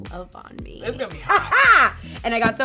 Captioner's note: cackles